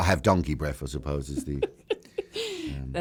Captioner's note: laughs